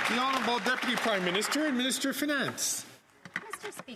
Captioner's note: some Applause